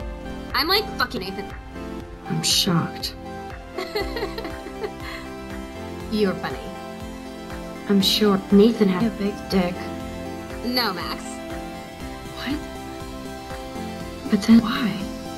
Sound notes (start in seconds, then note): 3.8 laughs